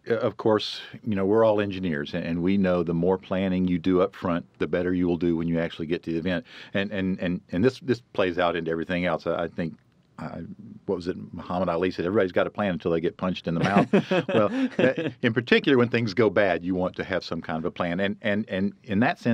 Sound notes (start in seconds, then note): 13.6 laughs